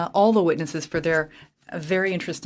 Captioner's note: speaking French